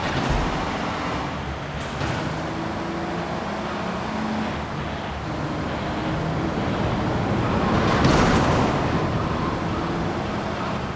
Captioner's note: explosion